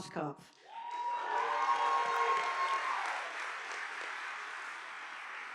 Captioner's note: audience applauding